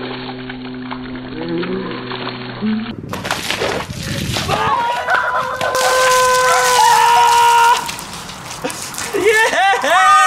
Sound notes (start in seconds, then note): 4.4 yelling